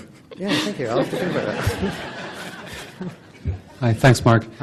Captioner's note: laughing